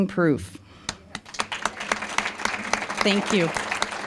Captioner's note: applause